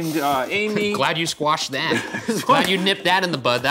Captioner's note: laughing